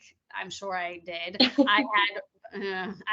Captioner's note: chuckling